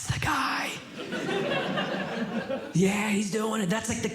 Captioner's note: audience Laughing